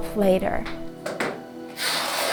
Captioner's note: fabric ripping